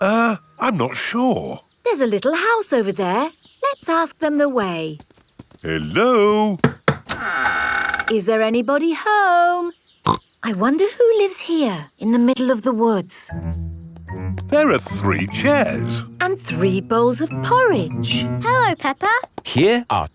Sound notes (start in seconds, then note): 6.5 door creaks; 10.3 snorts